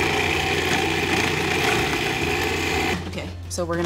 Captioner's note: blender whirs